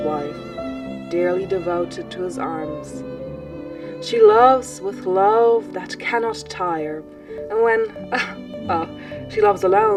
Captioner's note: laughs